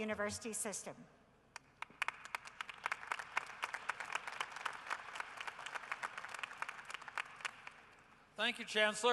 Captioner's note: applause